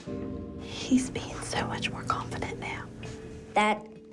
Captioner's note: whispers